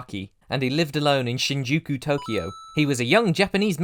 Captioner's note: ding!